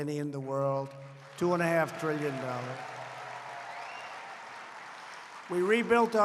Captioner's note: applause